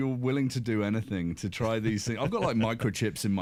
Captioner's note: chuckles